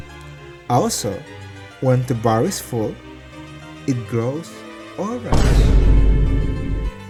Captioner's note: boom shez; boom